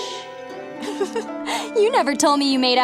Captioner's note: giggles